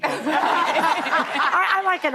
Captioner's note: audience laughing